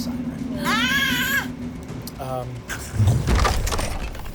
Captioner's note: squeals